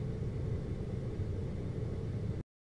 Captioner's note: air conditioning